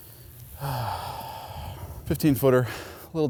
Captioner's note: sighs